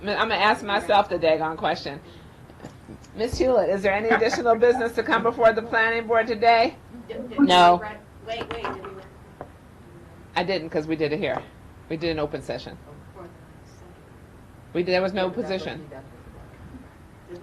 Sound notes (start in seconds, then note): 8.3 faintly speaking